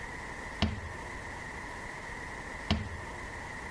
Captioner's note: cabin thumps